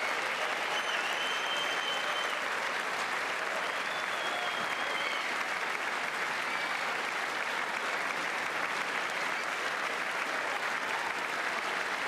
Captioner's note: applause